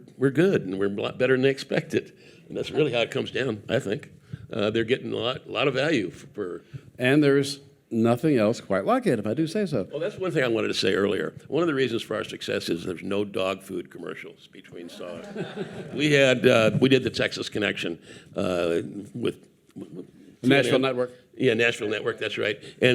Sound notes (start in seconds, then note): 14.8 audience laughing